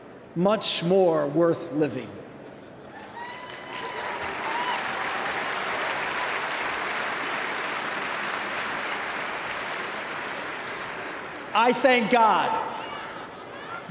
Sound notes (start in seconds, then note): 5.0 applause